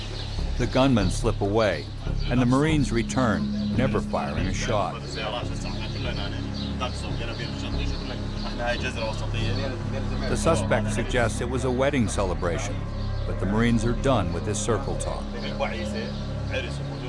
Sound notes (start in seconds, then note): 0.4 voiceover; 5.2 Iraqi speaking in Arabic